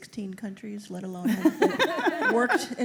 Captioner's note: laughter